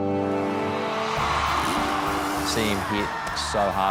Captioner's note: victorious music; crowd cheering